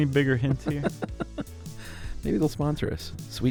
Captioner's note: laughs